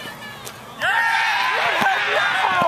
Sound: crowd cheers

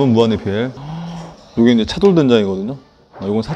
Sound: delighted Gasping

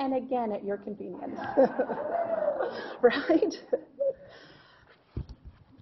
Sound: laughing

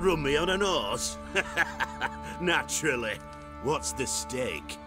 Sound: laughs

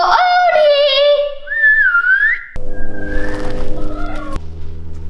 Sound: whistling

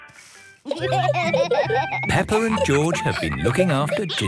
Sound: laughter

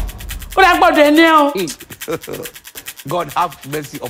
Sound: speaking in Yoruba language

